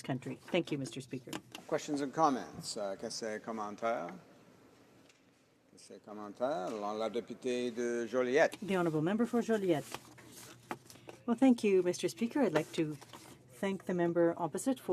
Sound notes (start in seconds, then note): 10.8 speaking french